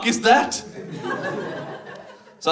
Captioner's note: audience laughs